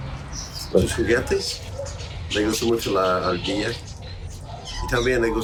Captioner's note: James speaking in Spanish